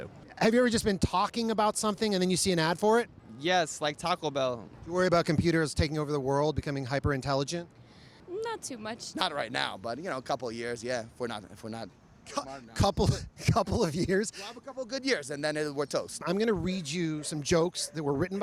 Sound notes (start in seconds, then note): 13.0 laughing